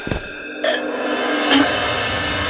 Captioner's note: choking